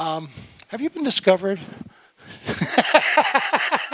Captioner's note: laughing